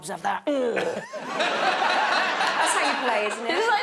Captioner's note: audience laughing